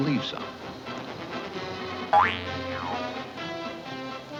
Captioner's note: spring boinging